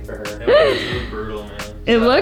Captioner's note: laughing